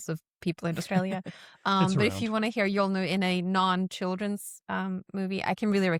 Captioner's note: chuckles